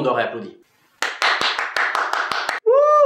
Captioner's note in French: applaudissements